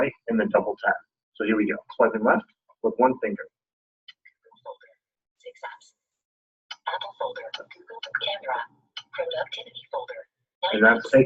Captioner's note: indecipherable system noises